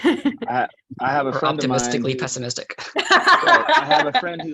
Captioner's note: laughs; laughs